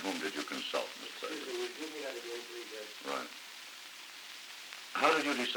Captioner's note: production chatter